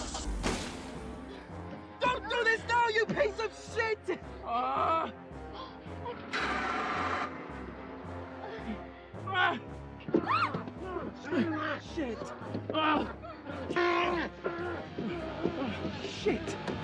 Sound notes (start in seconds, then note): 4.7 gasping; 6.0 groaning; 7.3 engine groans; 10.1 screaming; 14.3 yelling